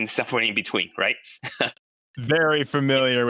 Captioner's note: laughs